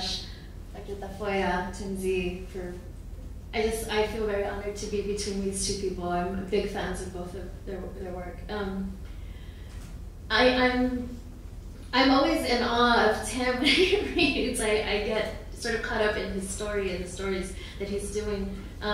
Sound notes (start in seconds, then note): 13.8 chuckles